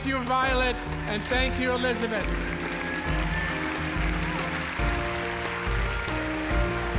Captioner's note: inspirational music; audience applauding